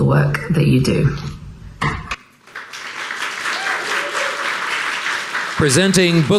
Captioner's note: audience applauding